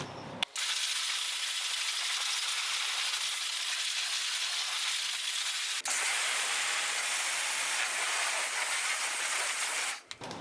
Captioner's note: shower sounds